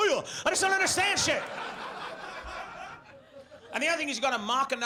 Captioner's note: audience laughs